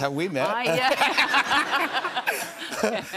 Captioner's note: laughter